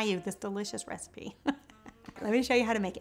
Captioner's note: laughs